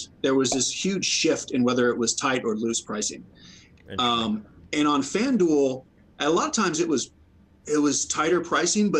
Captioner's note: none